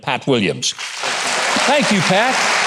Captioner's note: audience applauding